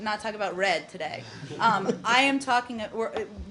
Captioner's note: laughter